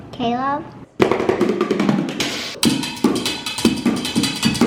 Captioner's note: dishes bang